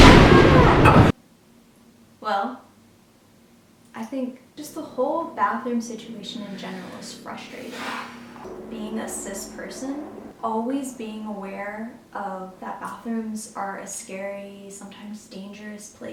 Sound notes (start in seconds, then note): 0.0 thunder cracking; 8.2 sighs